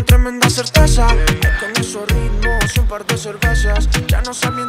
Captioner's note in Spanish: máquina pitido